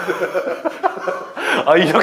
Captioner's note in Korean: 헛웃음